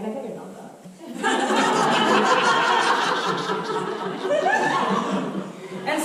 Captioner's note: audience laughter